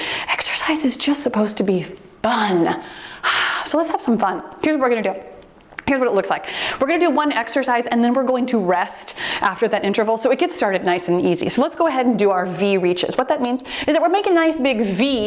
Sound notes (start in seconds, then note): 13.4 timer beeps